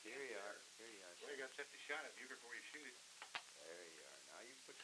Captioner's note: other chatter